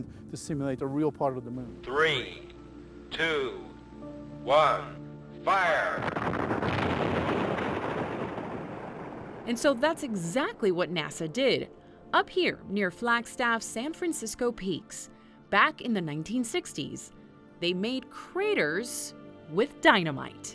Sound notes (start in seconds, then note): 5.8 dynamite blasting